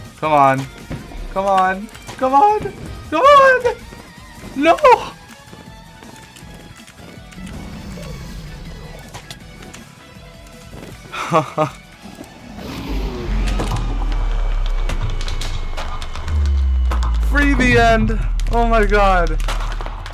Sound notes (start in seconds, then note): 11.0 chuckles